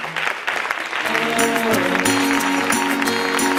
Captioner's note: Aplaudiments